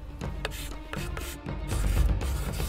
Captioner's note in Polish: dźwięk pisania kredą po tablicy